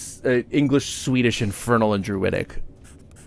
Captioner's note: none